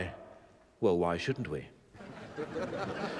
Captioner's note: laughing